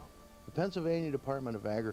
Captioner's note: voiceover